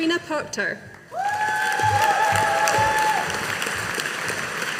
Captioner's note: audience applauding